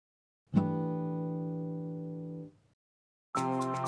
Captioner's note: chime sounds; upbeat music